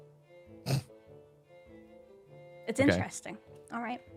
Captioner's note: chuckles